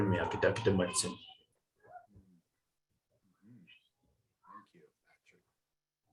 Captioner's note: speaking in foreign language